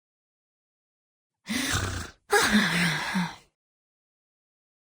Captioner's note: grunting